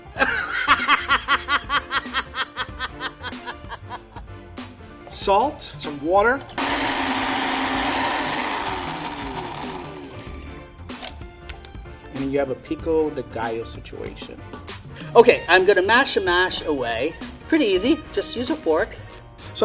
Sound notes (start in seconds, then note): 0.0 laughing; 6.5 motor running